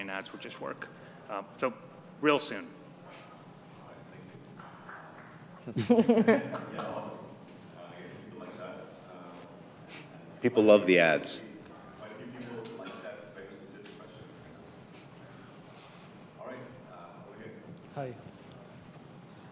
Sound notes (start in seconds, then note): 4.5 light applause